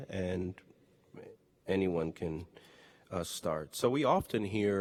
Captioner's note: none